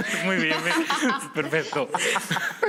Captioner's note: laughter